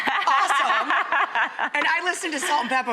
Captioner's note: Morena laughs